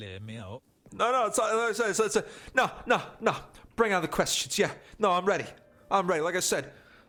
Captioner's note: stutters